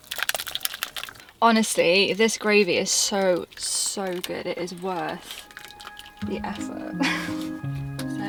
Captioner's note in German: lacht